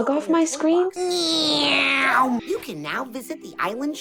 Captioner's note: imitates plane sounds